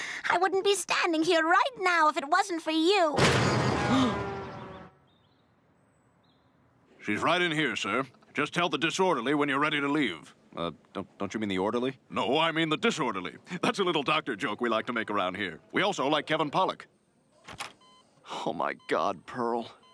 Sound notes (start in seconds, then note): 3.2 Brian gasps; 3.8 truck Horn